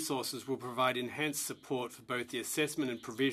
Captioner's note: speaking French